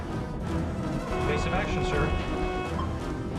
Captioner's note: alarm sounding